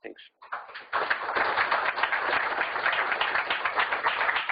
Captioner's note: applause